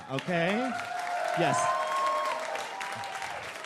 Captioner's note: audience applauds and cheers